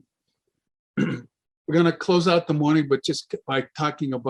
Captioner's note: clears throat